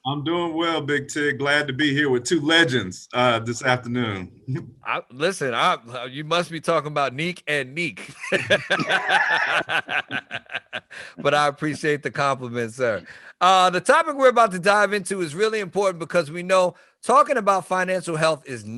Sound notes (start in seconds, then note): 8.0 all laughing